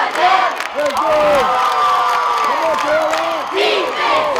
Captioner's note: cheering